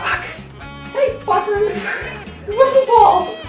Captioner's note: snickers